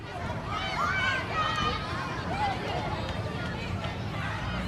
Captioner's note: kids playing